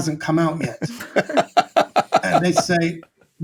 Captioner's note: all laughing